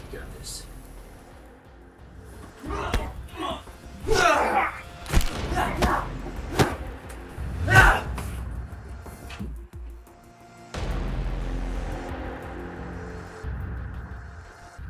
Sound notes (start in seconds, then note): 2.5 grunting; 5.2 cracking; 7.4 grunting; 7.8 smacking; 10.4 suspenseful orchestral music